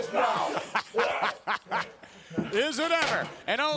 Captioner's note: Vince laughing